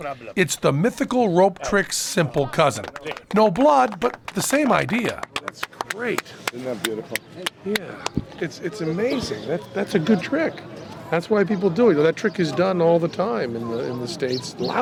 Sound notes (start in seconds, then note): 4.2 applause